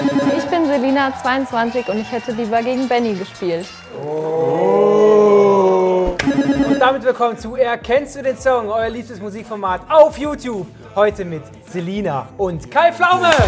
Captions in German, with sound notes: Ich bin Selina, 22. Ich hätte lieber gegen Benni gespielt. (Buhrufe) Damit willkommen zu "Erkennst du den Song?", euer liebstes Musikformat auf YouTube. Heute mit Selina und Kai Pflaume!